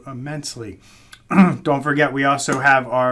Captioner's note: throat clearing